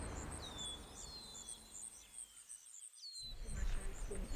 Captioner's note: birds chirping